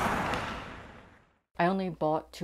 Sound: skates clashing against ice

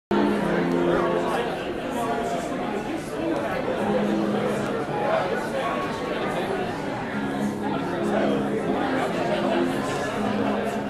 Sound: crowd conversation

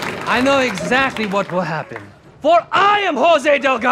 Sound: audience laughter; Mexican accent

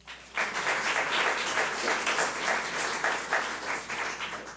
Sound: audience applauds

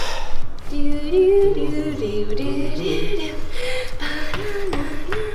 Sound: hums Jeopardy theme

